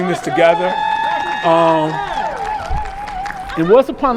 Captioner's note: crowd applauds and cheers